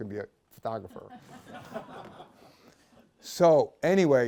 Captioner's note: laughter